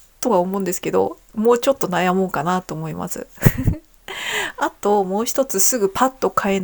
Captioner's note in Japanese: 笑い